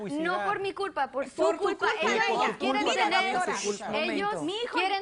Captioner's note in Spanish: Todos discuten